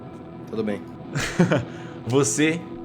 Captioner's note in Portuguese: Risada